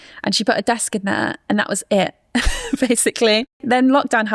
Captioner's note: chuckles